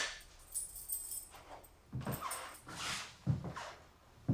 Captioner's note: keys jingling